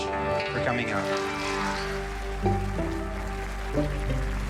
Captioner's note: applause